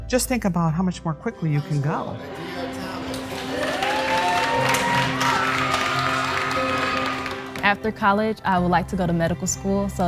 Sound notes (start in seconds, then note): 2.5 crowd applause